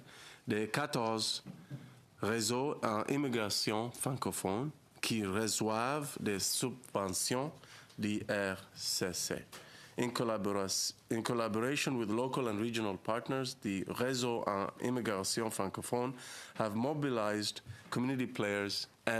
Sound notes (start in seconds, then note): 2.0 speaking French